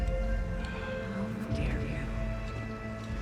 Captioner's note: Sera echoing